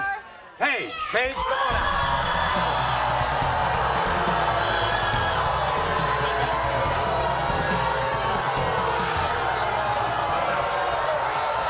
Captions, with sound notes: Paige, Paige, come on. (audience booing)